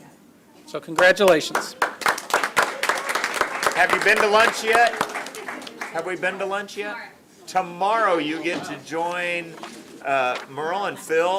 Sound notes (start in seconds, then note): 0.9 applause